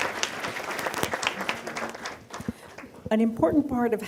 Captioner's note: applause